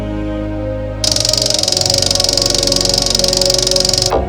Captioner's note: object clicking